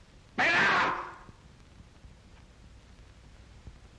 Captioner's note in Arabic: يصرخ